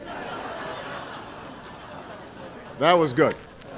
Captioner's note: laughter